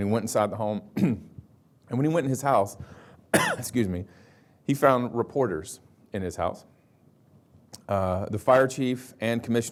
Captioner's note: cough